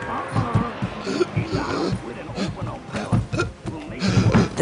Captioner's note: boy gasping